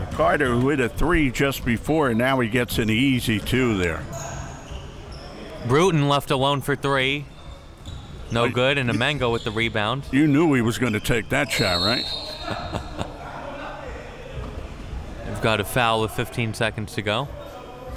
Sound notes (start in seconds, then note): 12.2 laughing